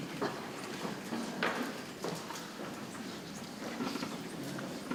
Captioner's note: people chattering softly